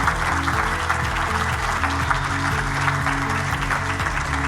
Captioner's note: audience applauding; upbeat music